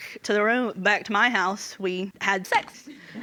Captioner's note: audience laughing